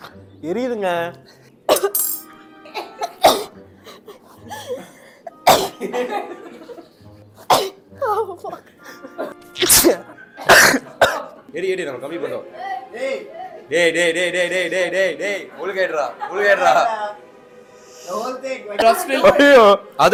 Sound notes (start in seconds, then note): 3.1 minion sneeze; 9.5 sneeze; 10.3 coughs